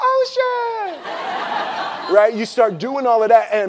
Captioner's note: laughing